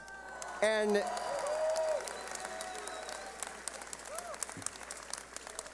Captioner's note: cheering